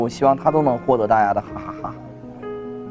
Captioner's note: laugh out loud